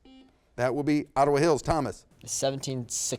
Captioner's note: buzzer beeps